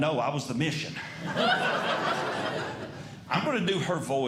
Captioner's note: audience Laughing